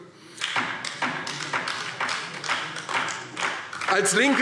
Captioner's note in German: Beifall DIE LINKE